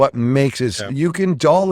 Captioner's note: laughs